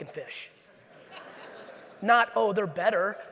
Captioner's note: audience laughing